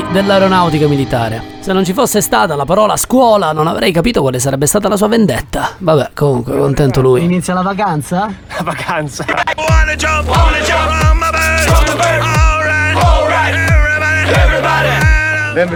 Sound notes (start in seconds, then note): 9.4 laughter; 9.7 rock music